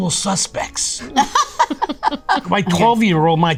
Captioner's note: Rhea and Lucy laugh